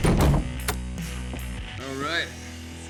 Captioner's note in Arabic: موسيقى روك مبهجة; طقطقة القفل